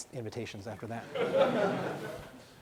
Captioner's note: laughing